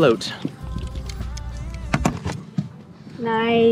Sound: tool clicking

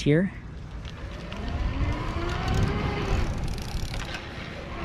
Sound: bike motor whirring

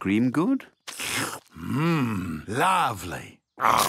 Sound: slurps

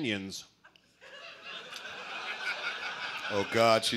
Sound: laughter

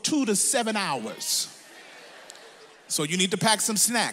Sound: audience laughs

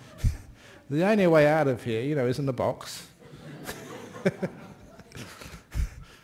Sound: laughter

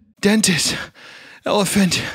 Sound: deep Breath

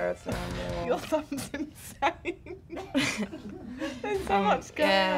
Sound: laughs

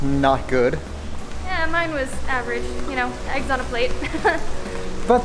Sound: laughs

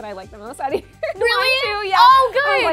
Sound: laughs

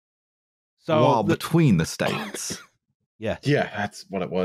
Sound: with a drawl

